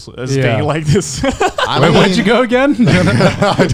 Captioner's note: laughing